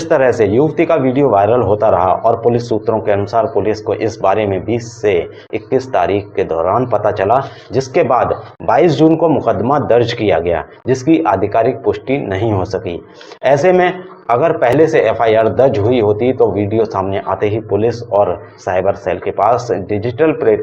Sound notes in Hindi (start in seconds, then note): 14.0 नाक से की जाने वाली आवाज़